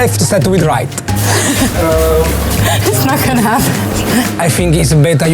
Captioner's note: laughs